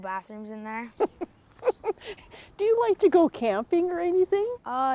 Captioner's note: laughs